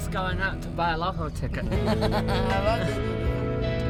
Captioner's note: laughter